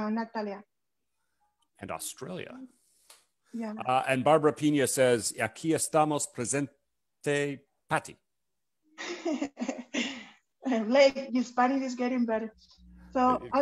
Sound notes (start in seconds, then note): 6.1 Spanish; 9.0 chuckles